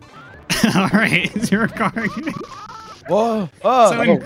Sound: laughter

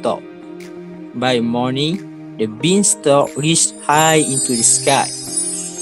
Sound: magic sound effect

